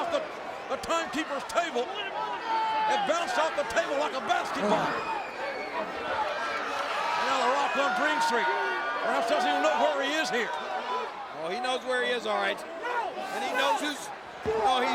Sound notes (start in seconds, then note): 6.5 spectators cheering